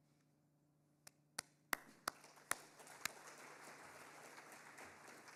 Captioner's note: audience applauding